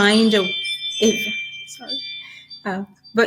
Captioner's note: phone rings